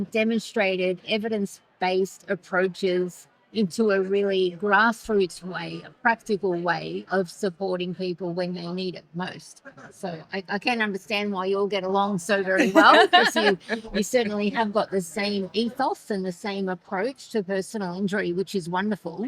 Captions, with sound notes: demonstrated evidence-based approaches into a really grassroots way, practical way of supporting people when they need it most. So I can't understand why you all get along so very well. (laughing) We certainly have got the same ethos and the same approach to personal injury, which is wonderful.